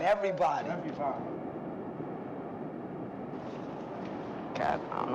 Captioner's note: echoes